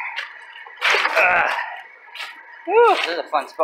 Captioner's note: grunt. Feet landing on gravel